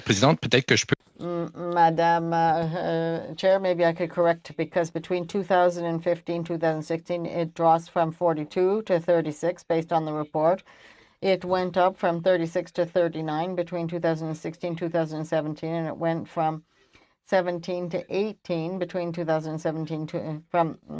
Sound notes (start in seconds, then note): 3.6 speaking French